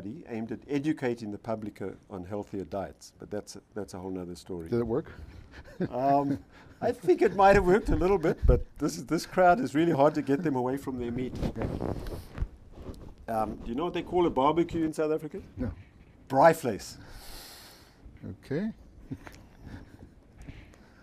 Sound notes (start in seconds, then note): 5.3 laughs